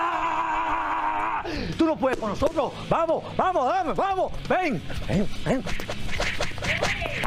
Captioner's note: shout